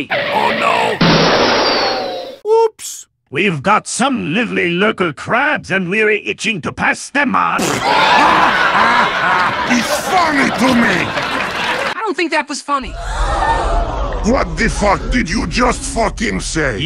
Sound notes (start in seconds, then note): 0.1 car goes out of control; 0.1 crash; 7.6 laughter; 12.8 crowd gasp